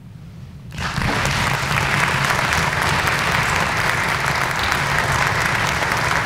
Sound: clapping

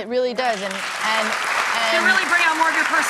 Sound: audience clapping

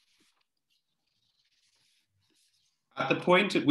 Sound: paper rustling

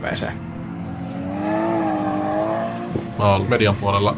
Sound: distant vroom

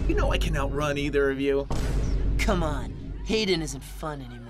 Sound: boom

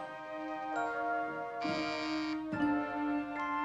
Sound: doorbell buzzing

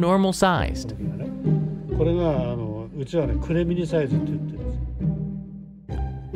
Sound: speaking Japanese

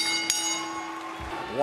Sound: bell rings; music and applause

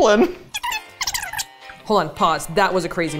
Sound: video rewind tone

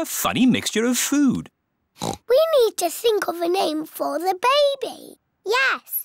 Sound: oinks

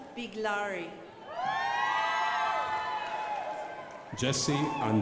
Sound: crowd applauding

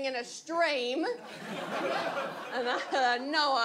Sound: audience laughs

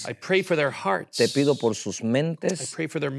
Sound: speaking in Spanish

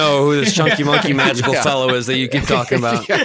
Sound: laughing

